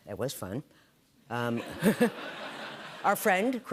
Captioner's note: laughter